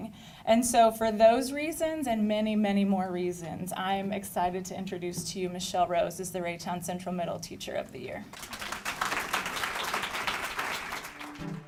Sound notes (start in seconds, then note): 8.3 clapping